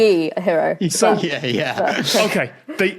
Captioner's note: laughs